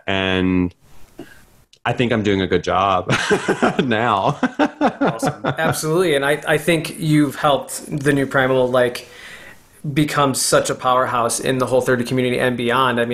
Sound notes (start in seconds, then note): 4.2 laughs